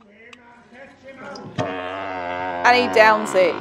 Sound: fart sound effect

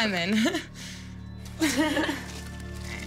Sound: laughs

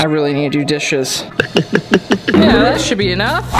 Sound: gulping

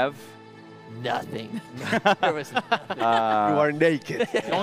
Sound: laughter

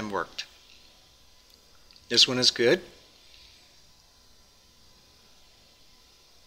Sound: pause

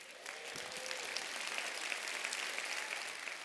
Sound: applause

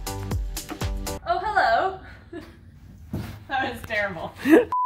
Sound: laughs

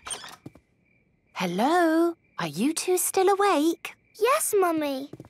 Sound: whisper

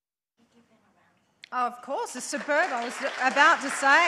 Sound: audience applauds

